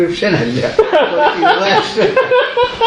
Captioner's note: laughter